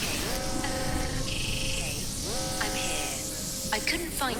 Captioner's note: alarm sounding